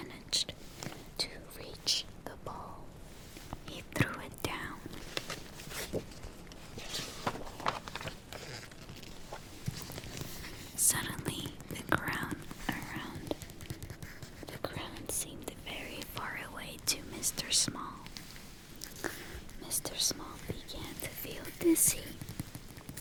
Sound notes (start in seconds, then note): 4.9 flips page